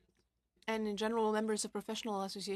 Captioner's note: speaking french